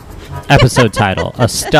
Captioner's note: laughs